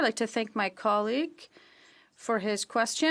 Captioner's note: speaking French